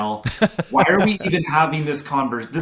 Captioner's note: laughing